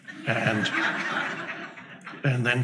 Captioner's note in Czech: diváci se smějí